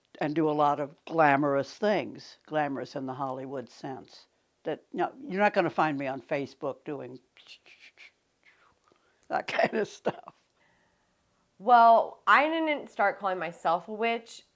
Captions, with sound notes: and do a lot of glamorous things. Glamorous in the Hollywood sense that you're not gonna find me on Facebook doing that kinda stuff. (chuckles) - Well I didn't start calling myself a witch